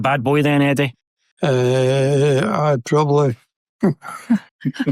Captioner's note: laughs; laughs